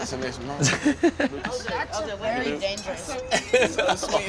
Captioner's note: laughing